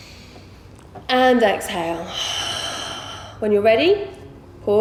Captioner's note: heavy breathing